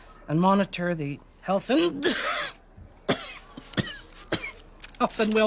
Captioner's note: coughs